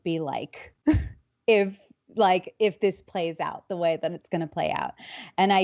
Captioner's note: laughs